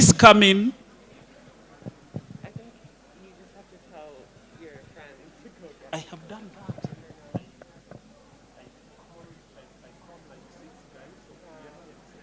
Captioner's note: background chatter